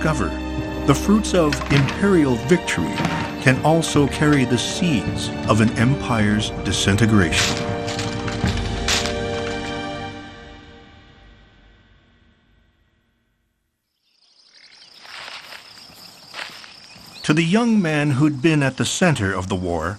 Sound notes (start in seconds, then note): 7.3 firearms clack; 14.0 birds sing; 15.0 soil shifts